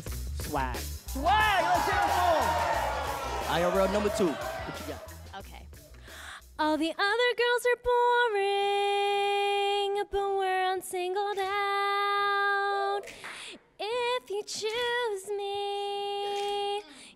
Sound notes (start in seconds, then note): 1.2 audience groans